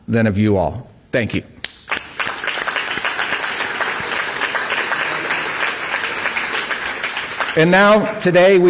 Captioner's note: applause